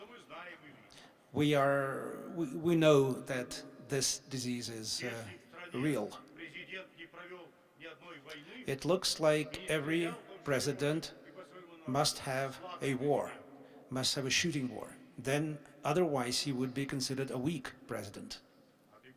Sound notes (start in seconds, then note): none